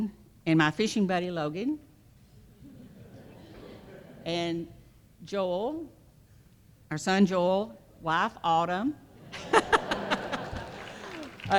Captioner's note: laughter